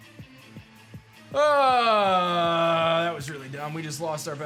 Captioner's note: grunts